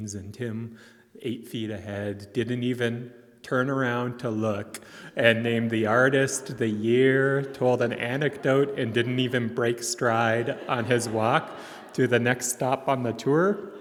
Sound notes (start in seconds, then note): 10.9 attendees laughing